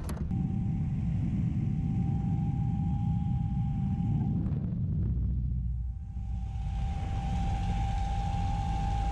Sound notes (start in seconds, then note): 0.3 high pitch buzzing